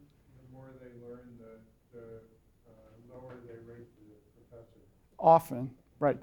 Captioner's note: voiceover